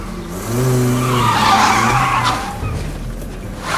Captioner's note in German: Reifen quietschen